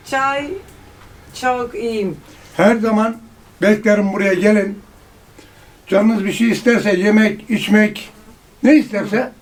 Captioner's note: Turkish